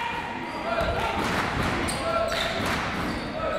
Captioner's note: crowd